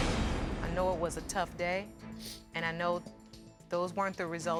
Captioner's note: sniffling